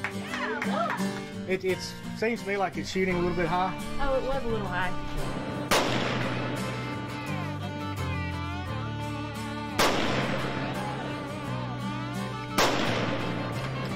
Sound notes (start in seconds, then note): 5.3 gunshots; 5.6 upbeat music